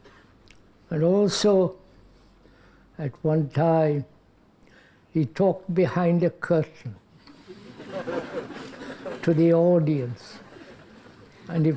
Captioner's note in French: rires